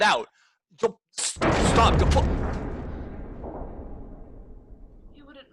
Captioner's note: heavy slam of stone slab